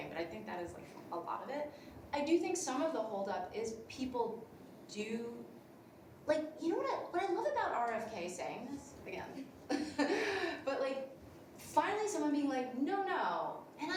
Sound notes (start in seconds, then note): 9.7 laughs